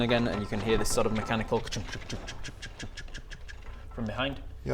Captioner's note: khchnk khchnk chkchkchkchkchk